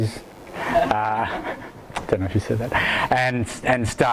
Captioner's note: audience laughs